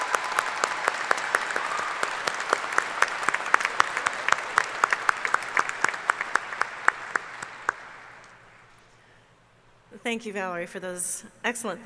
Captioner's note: cheers and applause